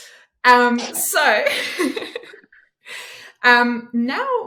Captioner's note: both laughing